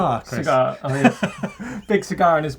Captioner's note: laughing